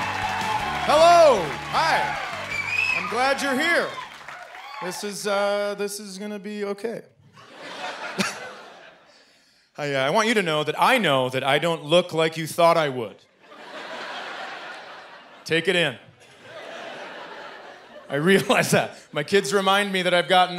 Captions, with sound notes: Hello! Hi! I'm glad you're here. This is, uh, this is gonna be okay. [audience laughing] I want you to know that I know that I don't look like you thought I would. [audience laughing] Take it in. I realize that. My kids remind me that I've gotten older